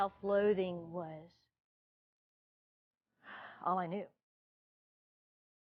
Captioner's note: sigh